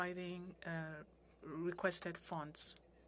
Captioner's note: speaking french